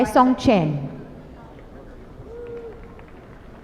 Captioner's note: applause